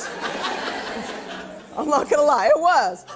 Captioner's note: laughing